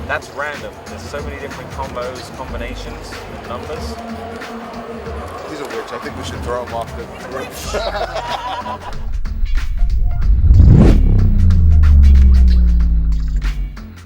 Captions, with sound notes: - That's random, there's so many different combos, combinations, numbers. - He's a witch, I think we should throw him off the bridge. (laughing) (upbeat music)